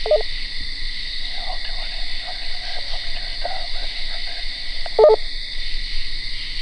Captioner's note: walkie garbles; walkie beeps